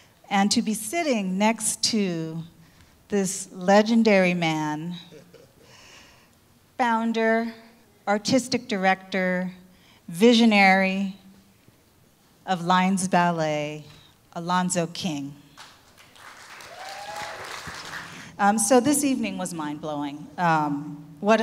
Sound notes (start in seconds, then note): 15.6 audience clapping